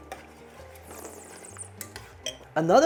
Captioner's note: slurps